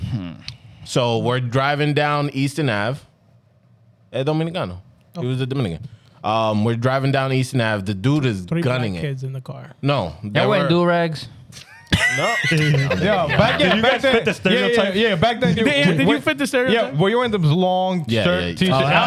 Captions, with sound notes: So, we're driving down Easton Ave. (Speaking In Foreign Language) Oh. It was at Dominican. We're driving down Easton Ave. The dude is gunning it. Put your back kids in the car. No, that worked. That way, do-regs. (Laughing) No. Yo, back then, back then-- Did you guys fit the stereotype? Yeah, back then, did you fit the stereotype? Yeah, well, you went into long, straight T-shirts.